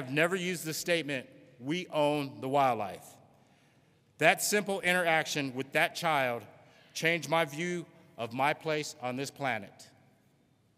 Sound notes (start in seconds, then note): none